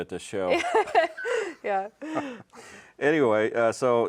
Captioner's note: laughing